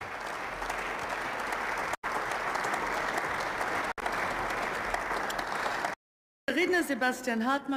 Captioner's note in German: Beifall